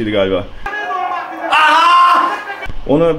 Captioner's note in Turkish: ahaa